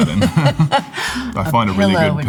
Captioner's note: both laughing